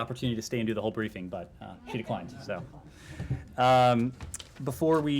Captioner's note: laughter